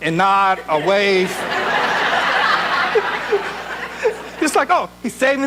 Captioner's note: audience laughs